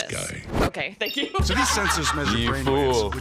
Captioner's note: laughs